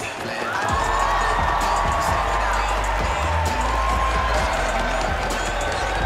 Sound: crowd cheering and applauding; hip hop music

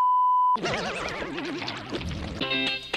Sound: weird Psycadellic noises

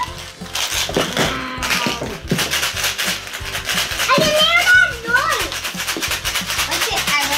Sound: lots of shaking and excited talking

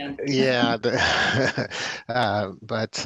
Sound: chuckles

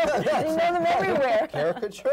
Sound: laughter

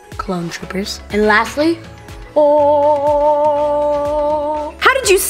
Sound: mimics choir of angels singing

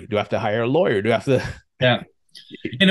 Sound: chuckles

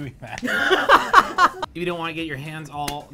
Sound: laughs

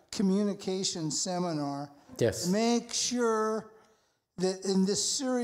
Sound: none

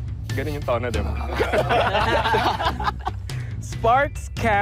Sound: chuckling

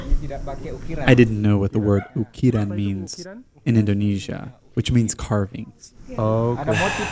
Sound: menghela nafas

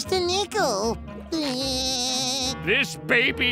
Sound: laughing

